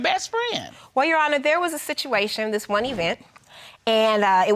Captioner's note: none